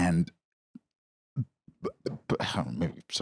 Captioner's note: stammers